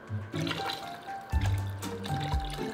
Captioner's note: liquid pouring